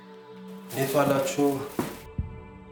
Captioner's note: none